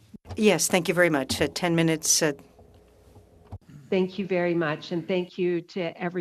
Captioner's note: speaking French